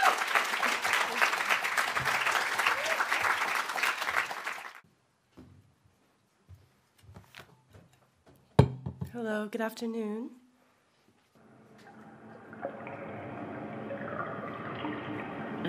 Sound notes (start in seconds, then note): 3.9 audience applauding; 3.9 audience cheering